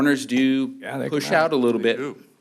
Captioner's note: laughter